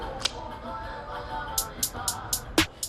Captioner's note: click